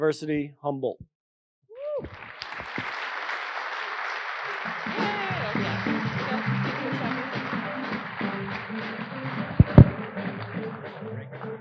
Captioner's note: applause